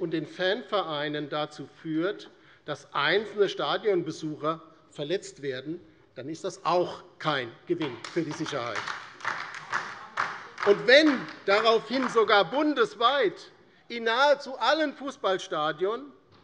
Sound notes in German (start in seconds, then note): 7.8 Beifall DIE LINKE